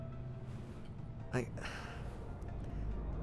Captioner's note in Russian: вздох